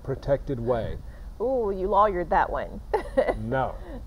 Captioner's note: laughing